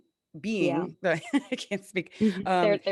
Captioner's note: laughing